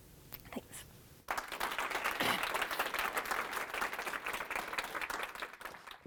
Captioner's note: audience applauding